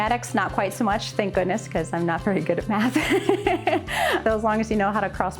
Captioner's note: laughs